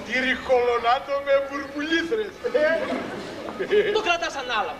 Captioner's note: γέλιο